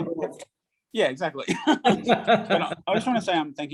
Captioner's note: both laughs